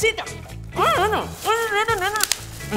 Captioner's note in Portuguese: resmungando